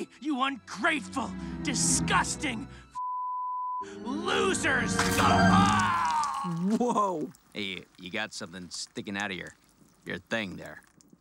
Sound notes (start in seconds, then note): 3.0 beep; 4.9 Adam groans